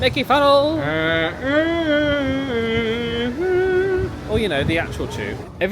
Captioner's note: humming